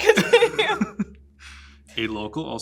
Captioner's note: laughs